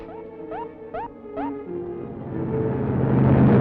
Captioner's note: beeping